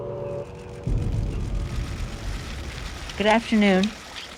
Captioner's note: cameras clicking